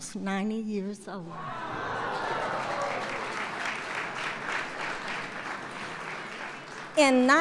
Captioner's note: applause